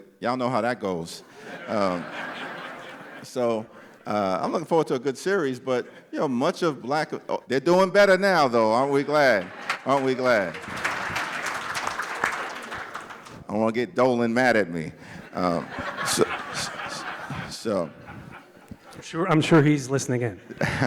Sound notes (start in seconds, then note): 12.9 applause